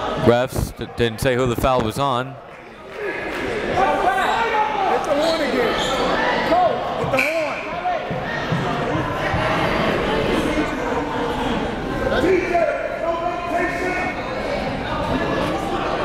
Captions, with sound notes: Refs didn't say who the foul was on. (players and referees chattering)